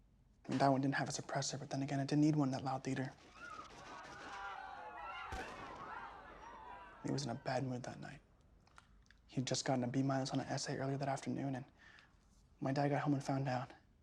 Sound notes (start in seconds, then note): 3.2 victims screaming; 5.2 gunshot booms